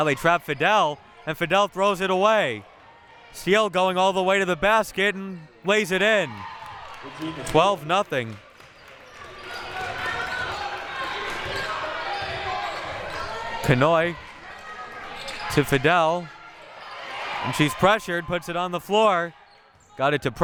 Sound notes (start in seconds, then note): 6.2 audience applauding and cheering; 9.2 audience chattering and yelling